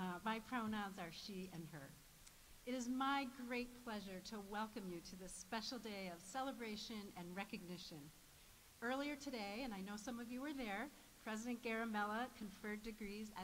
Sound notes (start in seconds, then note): none